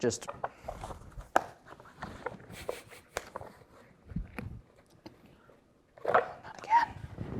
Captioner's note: card box rattling; whispers